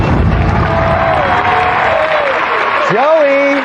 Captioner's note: dramatic music climaxes; cheering and applause